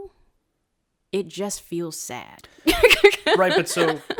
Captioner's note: laughs